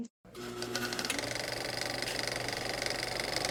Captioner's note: old-fashioned camcorder noise